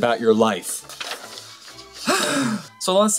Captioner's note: sighs